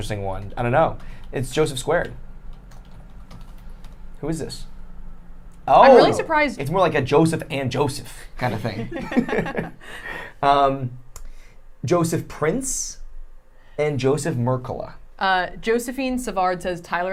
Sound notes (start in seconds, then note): 8.7 laughing